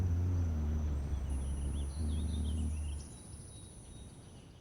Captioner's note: birds chirping